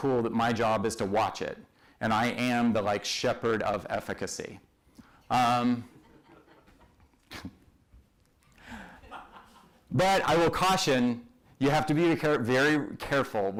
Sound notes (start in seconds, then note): 5.8 laughter